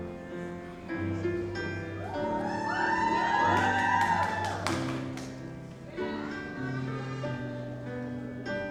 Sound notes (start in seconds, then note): 2.1 audience cheers